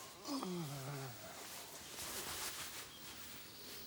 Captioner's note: Andy groans